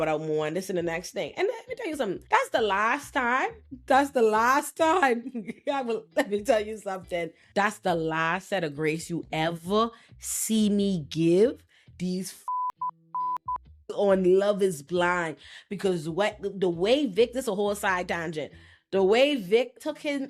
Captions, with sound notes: without more and this and the next thing. And let me tell you something. That's the last time, that's the last time, let me tell you something. That's the last set of grace you ever see me give these fucking (beeping) on "Love is Blind," because the way Vic, this a whole side tangent, the way Vic took him